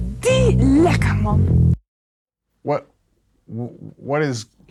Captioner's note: woman speaks Dutch